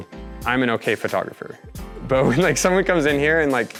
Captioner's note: laughs